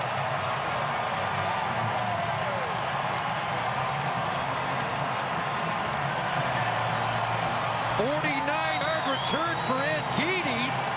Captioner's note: cheering and Applause